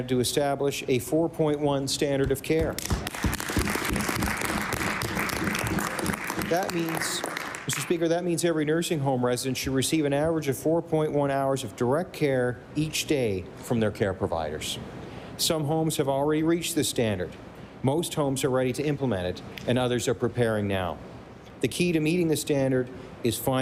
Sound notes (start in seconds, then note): 7.9 applause